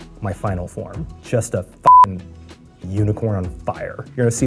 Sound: beeps

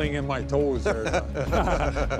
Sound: laughing

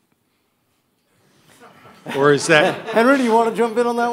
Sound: audience laughter

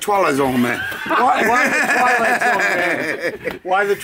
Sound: laughs

